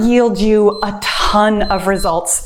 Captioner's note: timer beeps